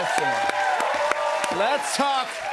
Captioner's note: cheers and applause